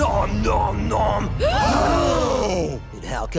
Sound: gasps

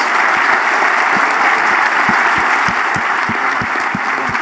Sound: audience applauds

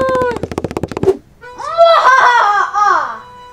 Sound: laughs

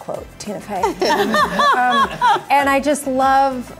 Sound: all laughing

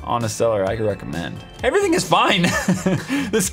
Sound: laughs

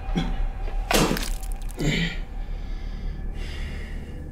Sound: punching; spitting

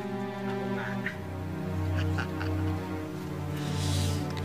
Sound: laughs

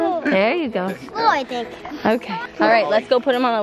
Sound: mumbles excitedly

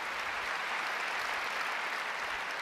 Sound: applause

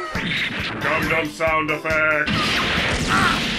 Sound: gundam sound effect; aw sweet gundam sound effects!!!!

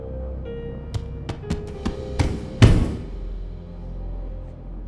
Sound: fist thudding

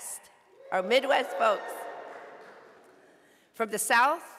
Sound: audience cheering

